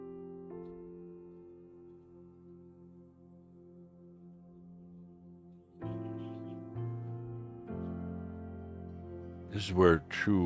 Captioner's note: longer pause